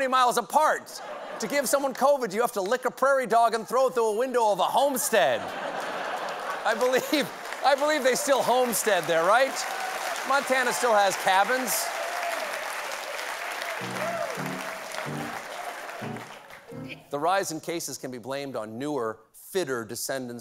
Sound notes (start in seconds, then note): 3.0 applause; 3.0 laughter